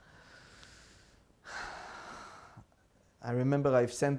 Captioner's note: sighing